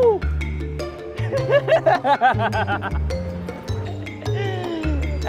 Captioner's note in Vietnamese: Tiếng cười